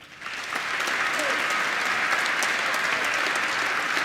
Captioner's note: applause